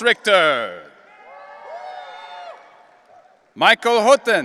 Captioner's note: audience cheering